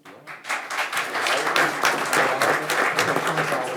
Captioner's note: crowd applauding